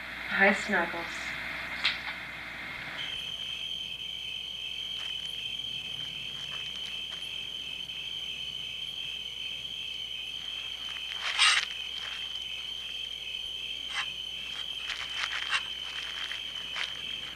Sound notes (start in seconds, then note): 4.1 crickets; 11.0 metal screech